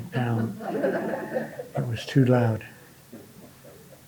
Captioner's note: audience laughing